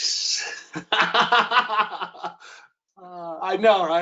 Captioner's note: laughter